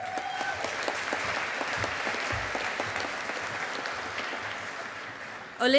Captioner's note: audience applauding